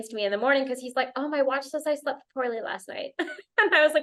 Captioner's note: laughter